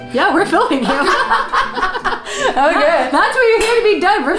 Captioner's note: both laugh